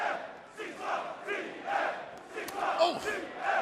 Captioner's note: fans chanting